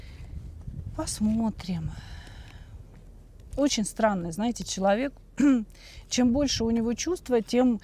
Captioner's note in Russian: откашливается